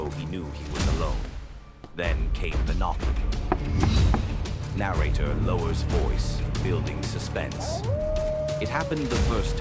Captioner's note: الراوي يخفض صوته - بناء التشويق